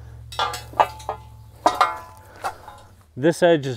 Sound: pole clanging

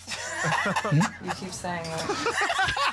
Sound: laughter

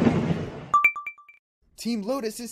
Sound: ding

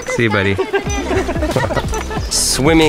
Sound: laughter

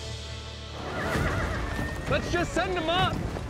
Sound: hoofbeats, horses neigh

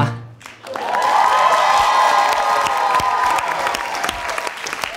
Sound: audience cheering

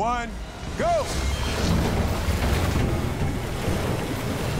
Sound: water rushes

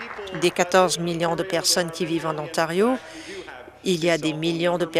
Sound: applause

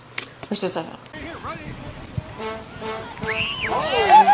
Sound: mumbles; crowd cheers

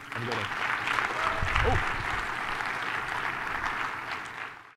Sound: audience applauding

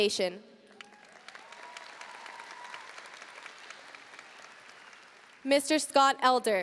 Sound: audience cheering and applauding

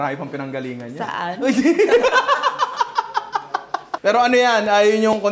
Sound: laughter

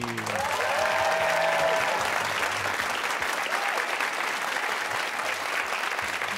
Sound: cheers and applause

